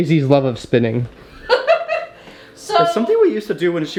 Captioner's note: mom laughs